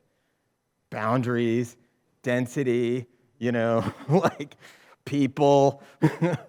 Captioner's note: chuckles